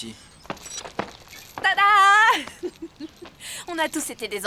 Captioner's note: laughs